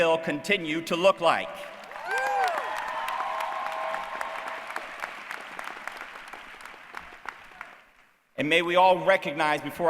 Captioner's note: applause